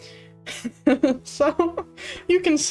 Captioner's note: laughs